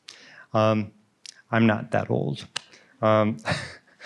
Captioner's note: laughs